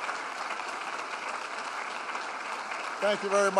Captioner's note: applause